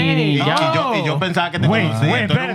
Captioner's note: speaking Foreign Language